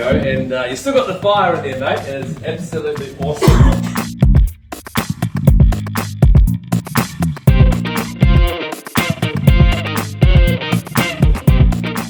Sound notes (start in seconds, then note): 3.3 participant coughs; 4.5 energetic music